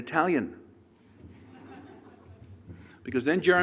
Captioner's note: laughter